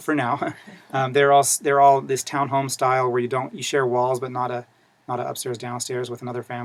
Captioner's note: laugh